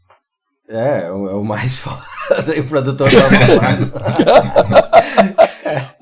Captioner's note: laughs